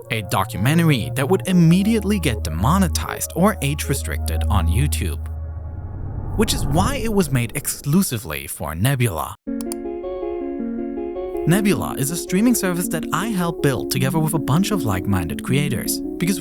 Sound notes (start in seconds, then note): 9.5 bright thoughtful music; 9.6 computer mouse clicks